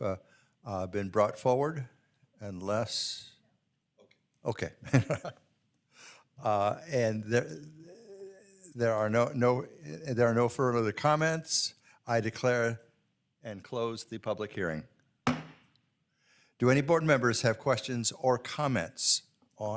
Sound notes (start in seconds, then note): 6.6 laughs